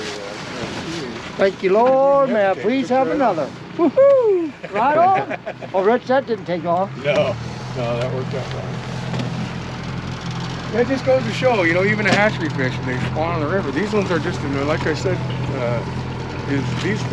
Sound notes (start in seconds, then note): 0.0 fish splashing; 3.8 laughing; 11.3 boat engine idling